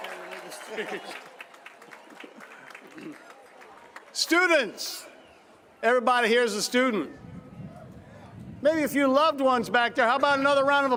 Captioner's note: cheers and applause